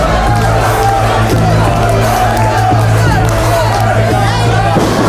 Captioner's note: chanting